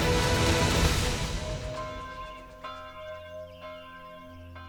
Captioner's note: bells ringing